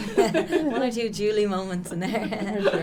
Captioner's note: laughter